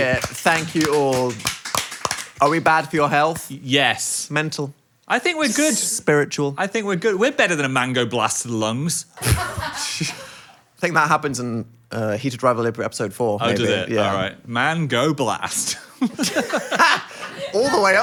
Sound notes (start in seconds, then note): 0.0 both applaud; 9.2 and crew laugh; 15.6 Dan and Phil laugh